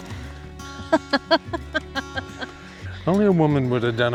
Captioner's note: laughs